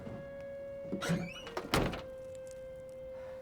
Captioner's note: trunk shuts